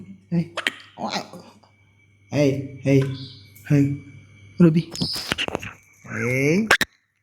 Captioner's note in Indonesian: tertawa